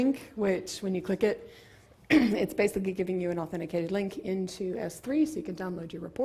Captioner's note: cough